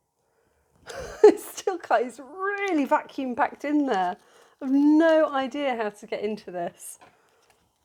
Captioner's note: laughing